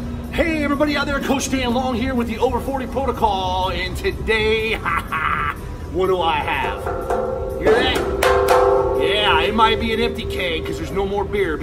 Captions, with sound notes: Hey, everybody out there. Coach Dan Long here with the over-40 protocol. And today, ha ha, what do I have? [HOLLOW KNOCKING] You hear that? [HOLLOW KNOCKING] Yeah. It might be an empty keg because there's no more beer,